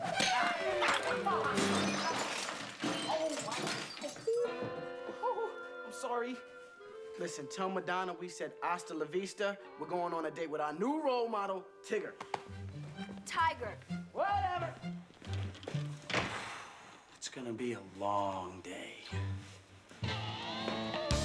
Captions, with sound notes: OOH... M SORRY. LISTEN, LLTE MADONNA WE SAI D HASTA LA VISTA. 'RWEE GOINONG A DATE WITH R OUNEW ROLEOD MEL-- TIGGER. TIGER. WHATEV!ER ( si ghing ) 'S GOING TO BE A LONG DAY.